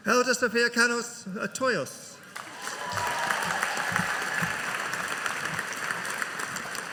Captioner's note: audience applauding